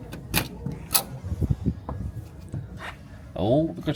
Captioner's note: door clicking